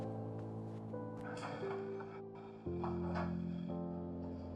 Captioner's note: fridge door opening